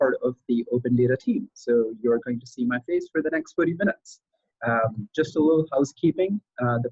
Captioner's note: laugh